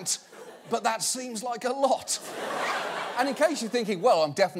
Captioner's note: audience laughs